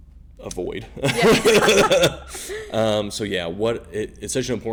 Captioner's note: laughing